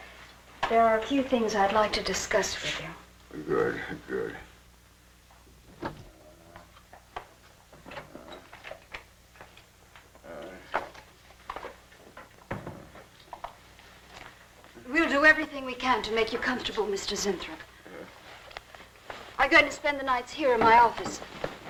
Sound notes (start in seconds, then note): 10.1 Zinthrop groaning